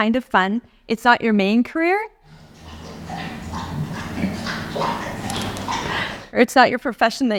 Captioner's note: dog drinking